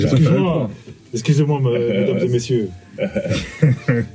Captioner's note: laughs